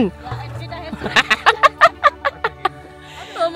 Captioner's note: speaking German; laugh